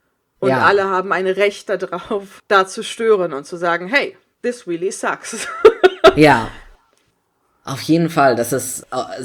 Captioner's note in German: lacht